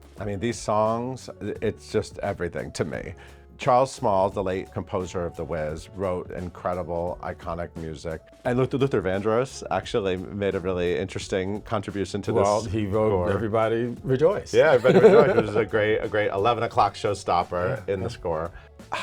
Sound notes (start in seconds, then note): 14.6 chuckles